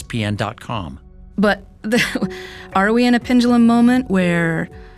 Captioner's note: laughing